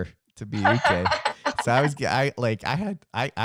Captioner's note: laughs